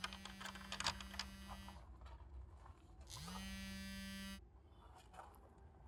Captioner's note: mobile phone vibrating